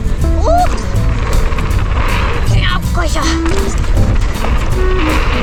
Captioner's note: grunting and exclaiming